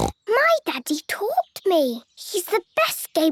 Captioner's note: snorts